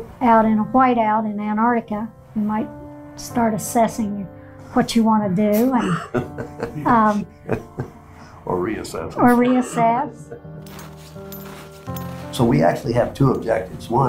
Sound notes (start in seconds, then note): 5.7 laughs